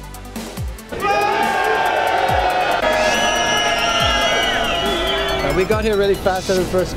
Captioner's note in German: Jubel und Trillerpfeifen